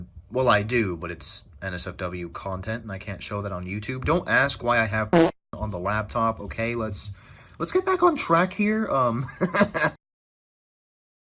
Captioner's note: fart; laughs